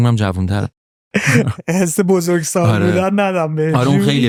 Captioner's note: laughs